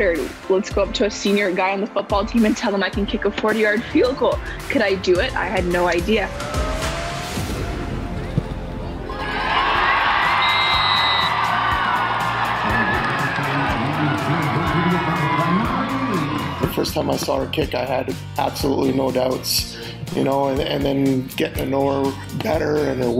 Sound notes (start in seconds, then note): 9.0 crowd cheers; 13.3 groovy music continues